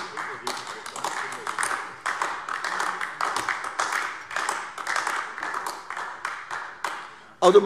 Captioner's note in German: Beifall AfD